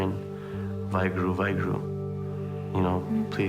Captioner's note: speaking foreign language